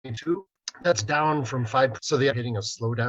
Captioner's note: audio distorts